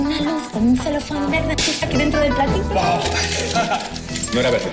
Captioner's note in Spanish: exclama emocionado